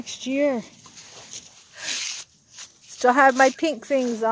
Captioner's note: swish